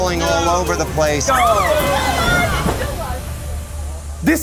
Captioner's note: screaming